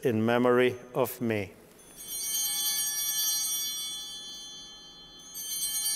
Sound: altar bells ringing

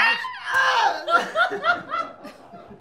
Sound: groaning; laughter

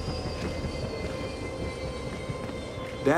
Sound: footsteps

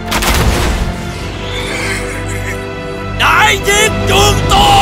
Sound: laughing

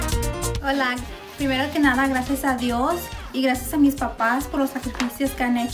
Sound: speaks in foreign language

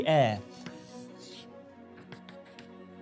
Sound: chalk board noise

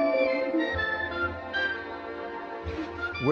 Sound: doorbell rings; humming

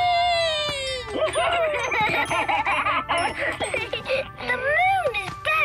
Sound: laughing

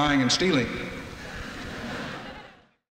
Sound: audience laughing

